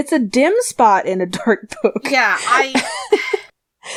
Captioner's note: laughs